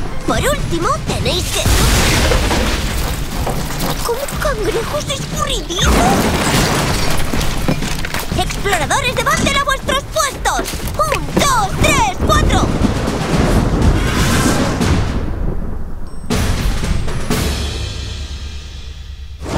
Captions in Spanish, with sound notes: Por último... (golpe fuerte) ¡¿Cómo?! ¡¿Cangrejos escurridizos?! ¡Exploradores de Bandle, a vuestros puestos de combate! ¡UN, DOS, TRES, CUATRO!